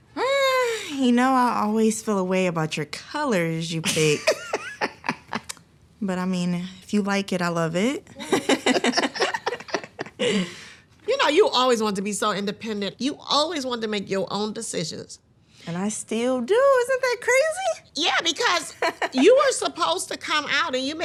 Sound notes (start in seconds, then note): 4.1 laughs; 8.2 both laughing